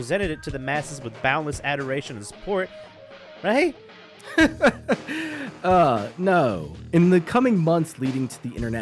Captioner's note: laughs, sighs